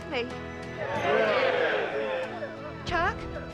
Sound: townspeople cheer

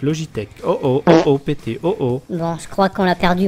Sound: fart sound

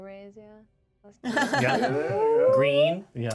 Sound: speaker laughs

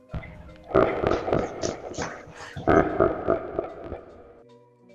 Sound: dispenser laughs spookily

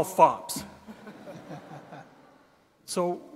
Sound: audience laughing

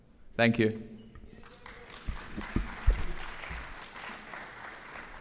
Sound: applause

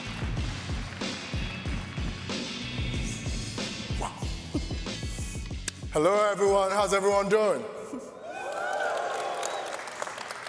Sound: applause

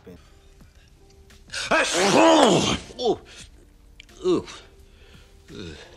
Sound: sneezing

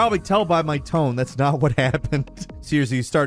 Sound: laughing

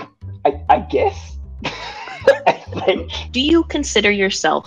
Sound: laughs

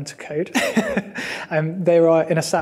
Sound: person laughing

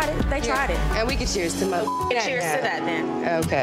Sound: beep

